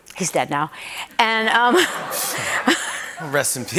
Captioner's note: laughter